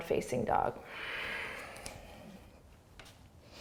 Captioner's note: exhaling